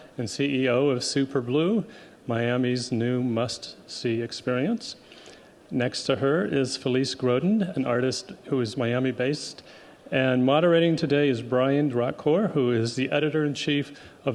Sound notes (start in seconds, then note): none